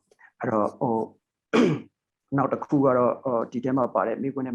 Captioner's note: speaking burmese